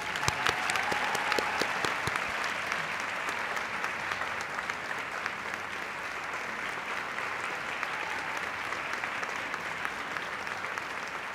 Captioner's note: applause